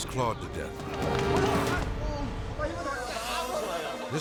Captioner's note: tourists speaking in foreign language